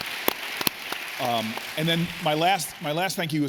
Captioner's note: applause